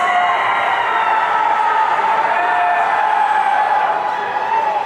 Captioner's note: audience cheering